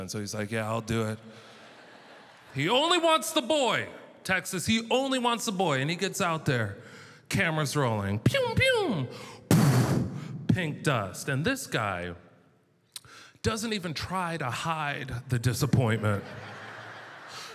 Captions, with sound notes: so he's like, yeah, I'll do it. (audience laughter) He only wants the boy, Texas. He only wants the boy. And he gets out there, camera's rolling. Pew pew. (explosion sound) Pink dust. And this guy doesn't even try to hide the disappointment. (audience laughter)